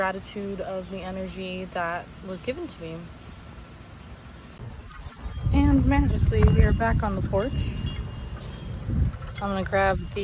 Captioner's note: windchimes